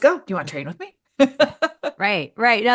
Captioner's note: laughs